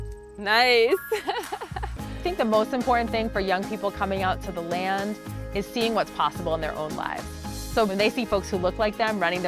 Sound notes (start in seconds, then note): 1.0 laughing